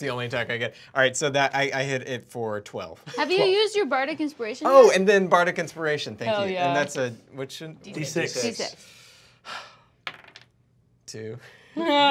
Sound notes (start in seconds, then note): 9.4 sighs; 11.2 laughing